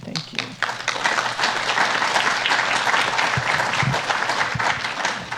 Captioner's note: everyone applauding